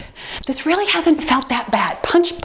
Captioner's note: timer beeps